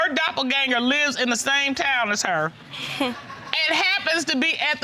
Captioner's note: scoffs